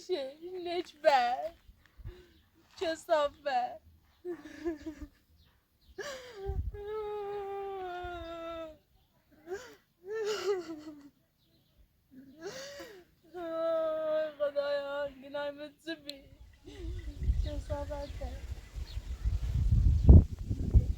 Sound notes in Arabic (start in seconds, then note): 4.2 ضحك; 6.6 بكاء